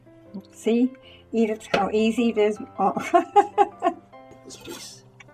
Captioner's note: laughs